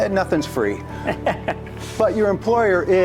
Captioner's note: melodic music continues; laughs